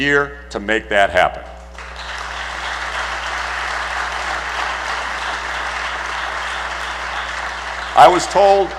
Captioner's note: applause